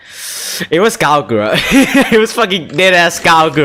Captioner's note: laughs